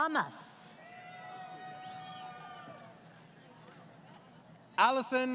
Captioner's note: crowd Cheering